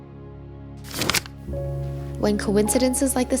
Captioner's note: gentle music; camera clinking